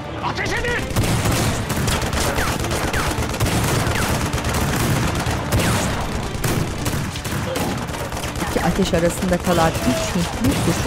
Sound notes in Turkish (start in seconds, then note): 0.6 Silah sesleri; 1.9 Müzik - Gerilim